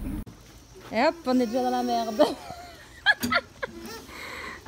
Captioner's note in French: rires